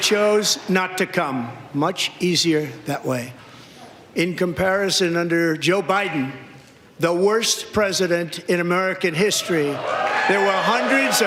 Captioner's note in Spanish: gritos